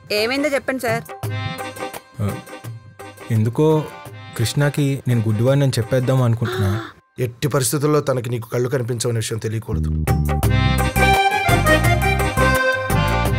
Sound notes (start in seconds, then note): 6.4 gasps